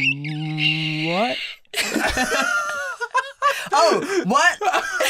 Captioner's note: squeaking noise